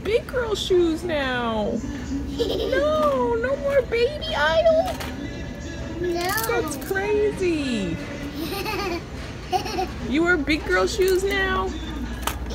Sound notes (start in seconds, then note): 2.2 giggles; 6.6 velcro rustles; 8.3 giggles